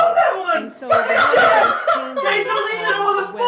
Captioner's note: Jim laughing